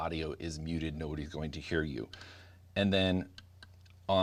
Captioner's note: button clicks